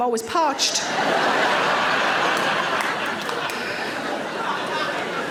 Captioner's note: audience laughing